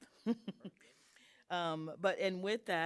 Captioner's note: chuckling